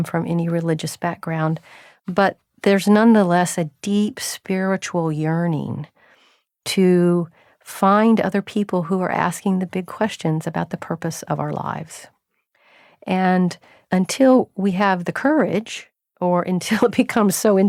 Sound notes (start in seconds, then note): none